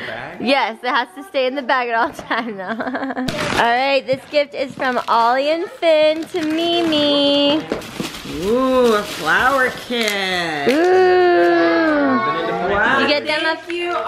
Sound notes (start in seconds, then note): 3.4 laughs; 10.2 murmuring